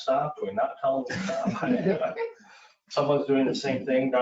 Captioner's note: everyone laughing